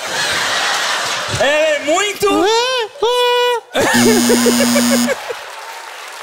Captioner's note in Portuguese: campainha